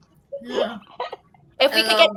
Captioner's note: laughing